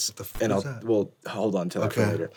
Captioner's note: static